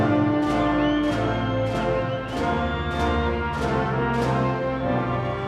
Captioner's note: audience cheering